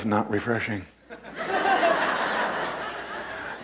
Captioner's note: crowd laughs